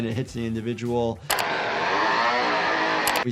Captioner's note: chainsaw buzzing